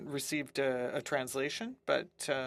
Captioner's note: speaking French